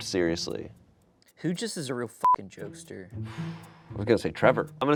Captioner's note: beep